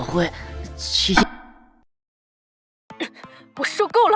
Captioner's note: the sound of slamming the table forcefully